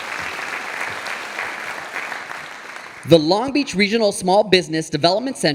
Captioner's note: audience applauding